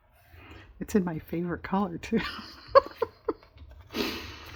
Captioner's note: laughs